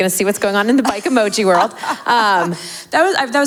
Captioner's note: laughs